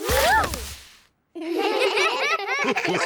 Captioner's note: all giggle